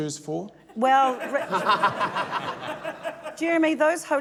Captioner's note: laughter